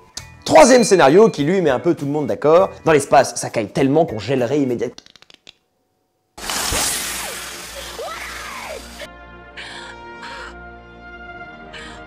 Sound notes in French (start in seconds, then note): 6.6 Bruit de dépressurisation puis cris; 9.5 Respiration